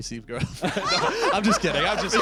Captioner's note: laughter